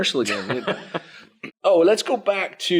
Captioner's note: laughs